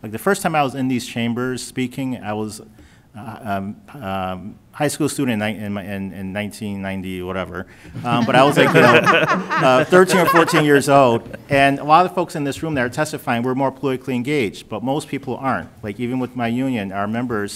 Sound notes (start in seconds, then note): 10.0 laughter